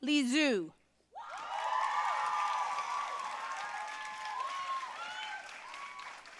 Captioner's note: audience cheering and applauding